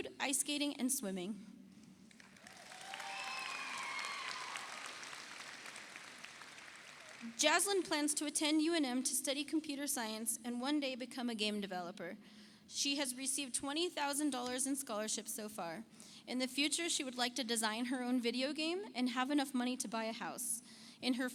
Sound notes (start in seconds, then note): 2.0 audience applauds; 2.2 audience cheers